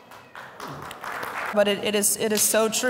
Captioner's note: audience applauds